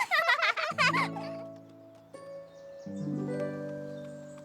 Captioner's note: both laugh